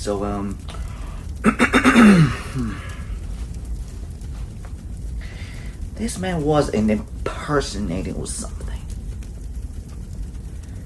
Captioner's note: clear throat